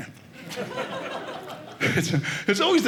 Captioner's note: audience laughing